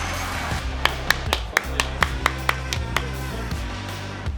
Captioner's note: clapping